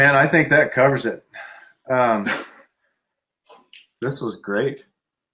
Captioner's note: laughing